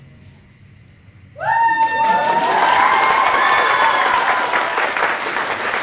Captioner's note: applause